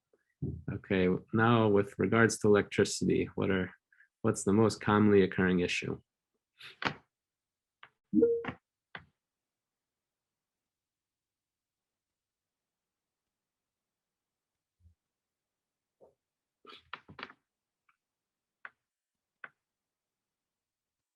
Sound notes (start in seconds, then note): 9.0 brief silence